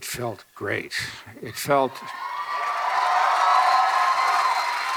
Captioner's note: audience cheering